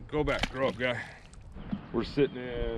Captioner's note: fish splashing